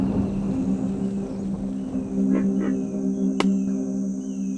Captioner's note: insects chirping; beak clacking